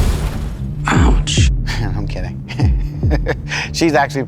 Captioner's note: chuckles